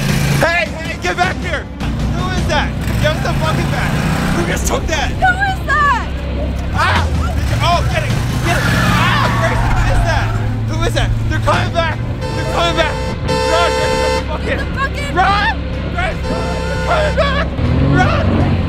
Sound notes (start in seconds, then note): 0.2 engine revving; 8.1 engine screeching; 12.3 horn beeping